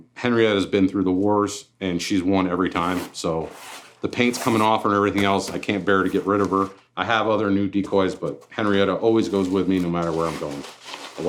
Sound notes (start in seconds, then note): none